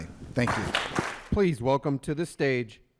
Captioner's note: applause